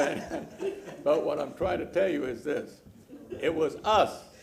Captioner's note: laughter